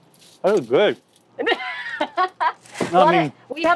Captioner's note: laughing